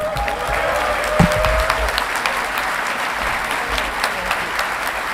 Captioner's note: audience clapping and cheering